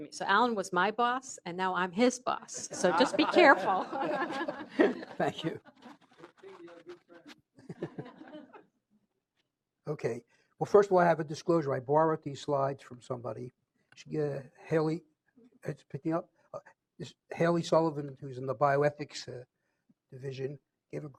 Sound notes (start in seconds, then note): 7.6 laughter